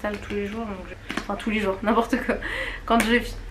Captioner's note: laughs